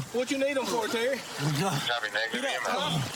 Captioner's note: panting